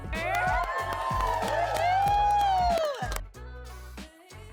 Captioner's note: cheering; upbeat Music Continues